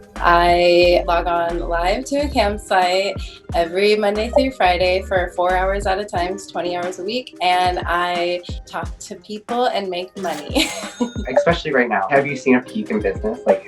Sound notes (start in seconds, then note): 10.2 laughs